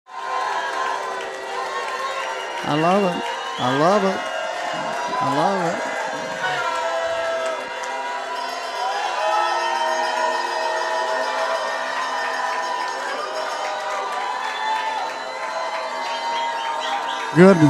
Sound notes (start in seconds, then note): 0.3 crowd cheering